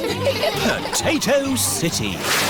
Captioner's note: all giggling